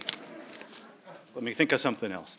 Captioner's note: crowd laughing